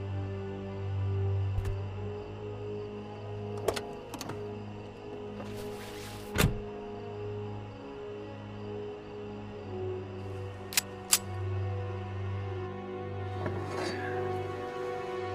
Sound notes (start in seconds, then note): 10.7 gun clicks; 12.3 suspenseful music